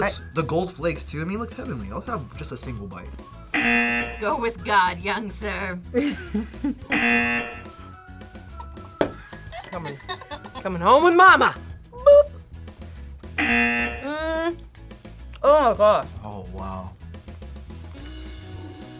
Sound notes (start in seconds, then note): 3.5 buzzer; 5.9 laughs; 6.9 buzzer; 9.4 laughs; 13.4 buzzer